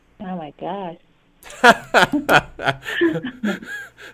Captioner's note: laughs